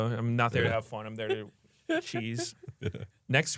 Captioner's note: laughs